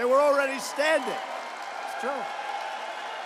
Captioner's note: applause